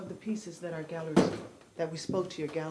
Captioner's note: thud